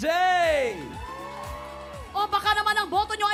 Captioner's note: audience cheering